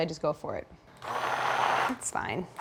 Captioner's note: mixer whirs